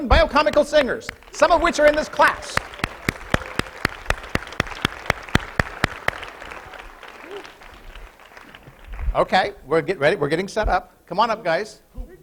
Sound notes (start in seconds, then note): 2.7 applause